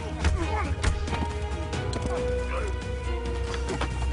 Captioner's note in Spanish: Golpes